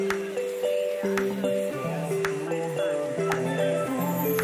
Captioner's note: chattering